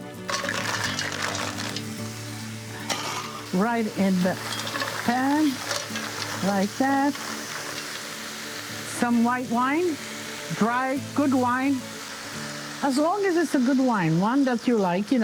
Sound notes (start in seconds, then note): 0.2 mussels clacking; 7.3 pan sizzling